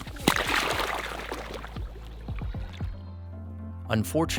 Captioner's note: water splashing